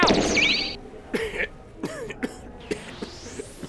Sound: TIEN coughs

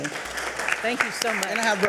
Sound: audience applauding

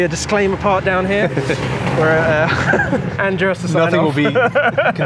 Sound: laughs

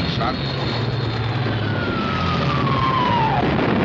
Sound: bomb whistles; explosion

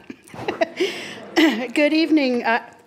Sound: laughs

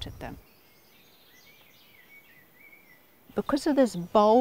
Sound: birdsong

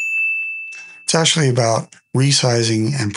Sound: bell dings

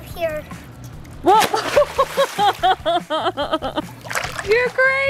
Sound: splash and laughing

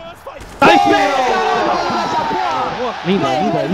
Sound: Furia’s team celebrating the round won

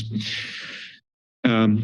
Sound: pause

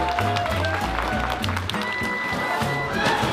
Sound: applause

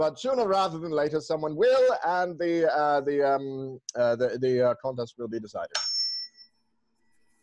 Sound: tuning fork dings

